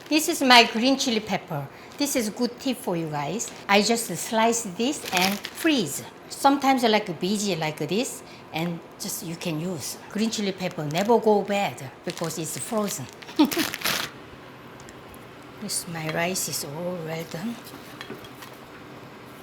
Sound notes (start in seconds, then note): 13.2 laughs